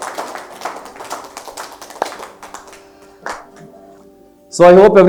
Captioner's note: audience Applauding